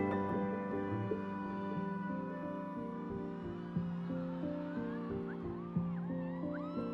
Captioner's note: light gentle music; crowd cheering